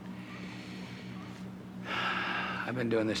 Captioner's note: exhaling